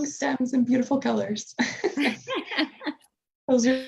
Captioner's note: both laugh